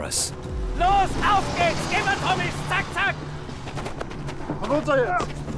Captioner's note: speaks in foreign language